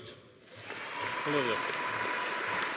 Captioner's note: audience applauding; attendee cheering